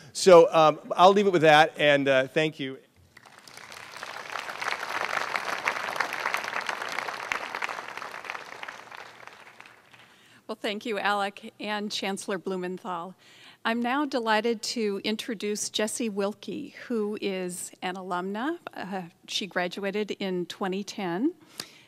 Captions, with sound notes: So, um. I'll leave it with that and thank you. (clapping) Well, thank you Alec and Chancellor Blumenthal I'm now delighted to introduce Jessie Wilkie, who is an alumni. She graduated in 2010.